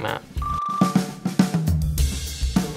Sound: beeps

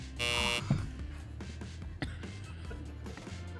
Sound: buzzer buzzes; Madelyn laughs

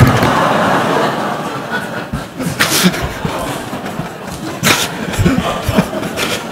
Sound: laughter

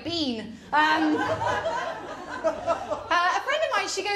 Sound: laughter

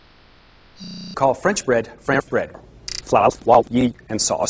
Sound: audio stuttering

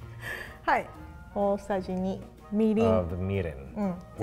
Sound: speaks in foreign language

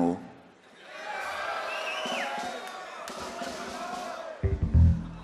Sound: audience cheering

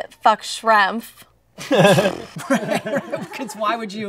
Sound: laughter

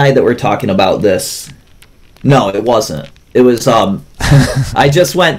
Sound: laughs

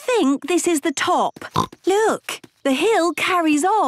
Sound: snorts

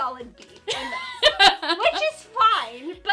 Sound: laughing

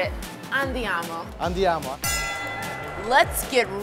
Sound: bell dinging

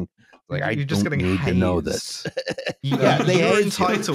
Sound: laughs

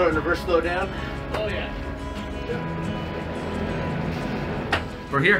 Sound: talking distantly

